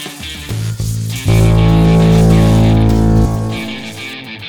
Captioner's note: machine blares